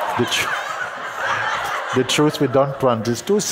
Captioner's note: loud laughter continues; laughs